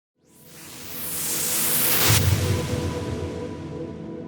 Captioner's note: whooshing